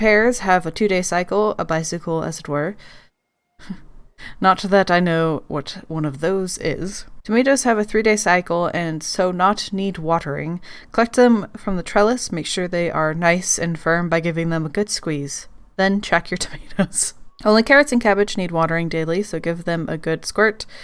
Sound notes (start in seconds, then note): 16.8 laughs